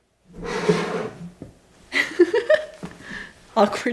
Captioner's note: laughs